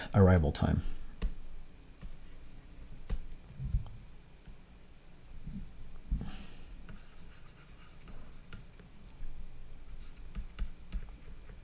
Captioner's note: writing